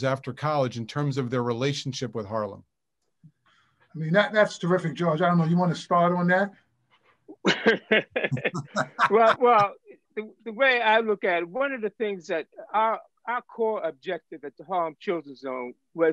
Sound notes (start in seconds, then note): 7.4 panelists laugh